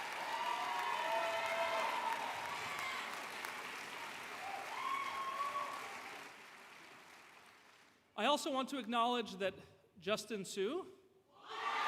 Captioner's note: applause